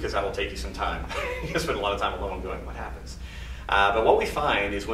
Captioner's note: laughs